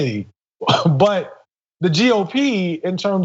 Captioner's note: cough